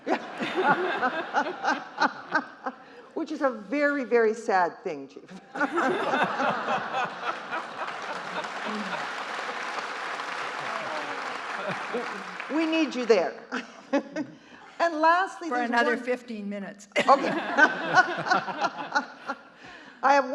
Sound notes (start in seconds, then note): 0.0 court and audience laughing; 5.4 court and audience laughing; 7.9 audience applauding; 14.1 laughs; 17.0 court and audience laughing